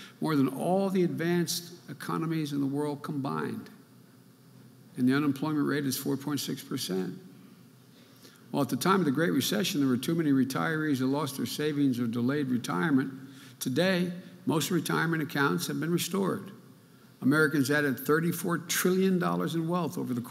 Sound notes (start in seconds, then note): none